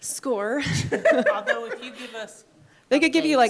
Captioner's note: people laughing